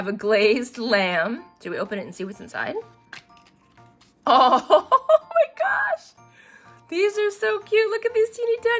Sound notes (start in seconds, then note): 4.3 laughs